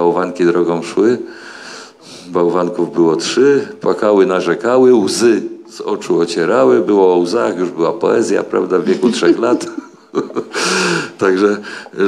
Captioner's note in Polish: śmiech